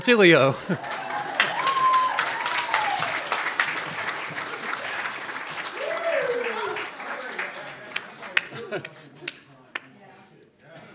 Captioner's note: audience claps and cheers